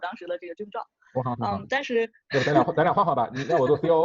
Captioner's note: laugh